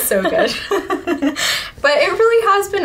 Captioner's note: laughing